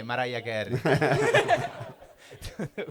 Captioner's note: risate